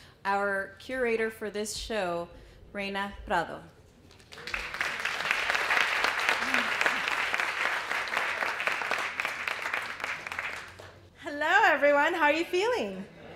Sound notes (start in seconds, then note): 4.1 applause